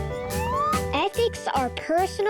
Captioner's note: slide whistle whistling